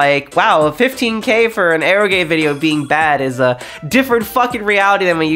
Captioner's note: none